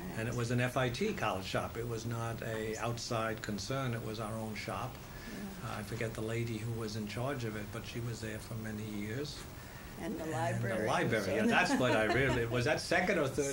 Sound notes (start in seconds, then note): 11.4 laughter